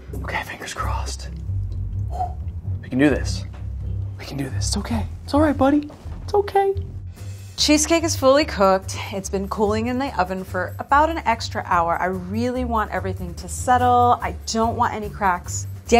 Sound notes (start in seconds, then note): 2.0 exhaling